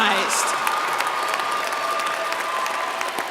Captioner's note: applause